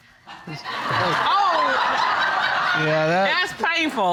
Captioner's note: audience laughing